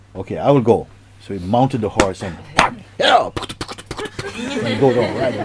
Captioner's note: laughter